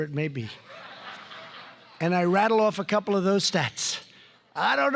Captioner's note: laughter